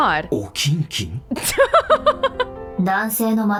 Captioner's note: chuckles